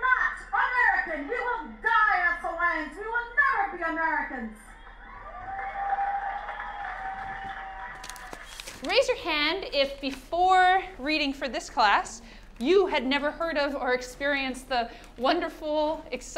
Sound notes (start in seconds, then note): 9.2 crowd cheers